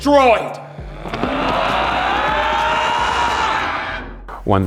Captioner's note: roaring in approval